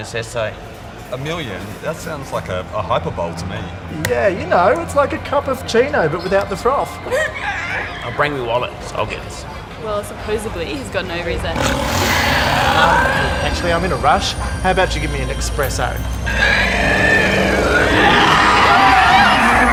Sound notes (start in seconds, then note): 6.3 whimpers; 11.5 growls; 16.2 screams; 16.3 snarls